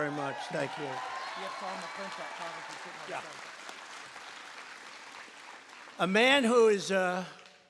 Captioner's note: applause